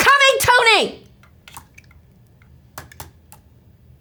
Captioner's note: tapping